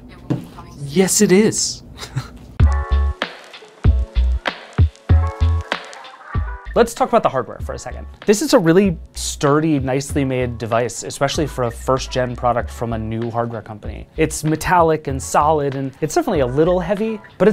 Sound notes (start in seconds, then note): 1.9 chuckling; 2.9 lively music